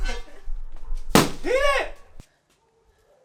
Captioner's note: loud thud